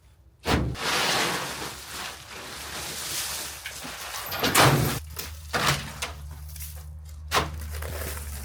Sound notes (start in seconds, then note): 0.7 leaves rustling